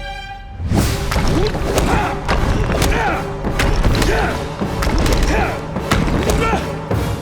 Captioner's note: grunting